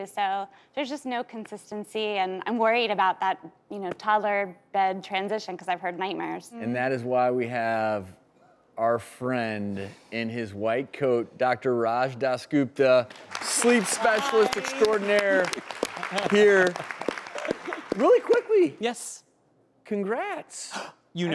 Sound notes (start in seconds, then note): 16.5 audience applauding